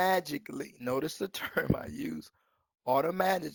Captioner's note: chuckles